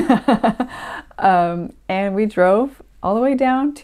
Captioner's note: traumatized laughter